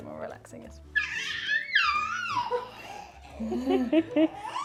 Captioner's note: fussing